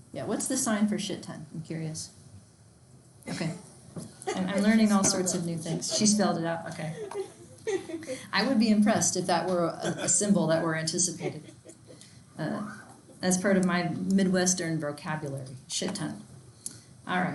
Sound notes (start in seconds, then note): 4.2 student laughs; 6.8 students laughing